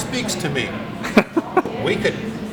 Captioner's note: laughs